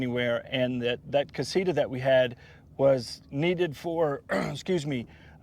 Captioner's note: coughs